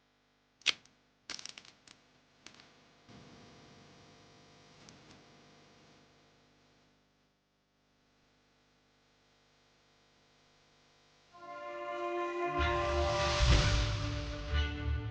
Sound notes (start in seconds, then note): 1.3 cracker crumbling; 11.3 tense orchestral music